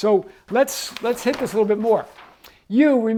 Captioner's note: page turns